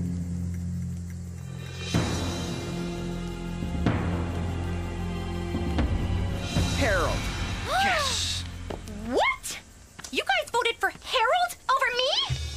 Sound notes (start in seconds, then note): 1.4 dramatic Music Playing; 7.9 Courtney Gasping